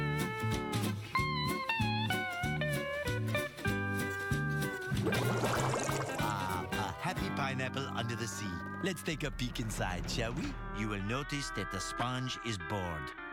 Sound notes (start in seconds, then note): 4.9 bubbles pop